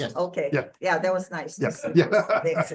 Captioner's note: laughs